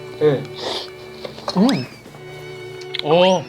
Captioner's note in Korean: 으음